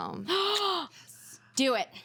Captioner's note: woman gasps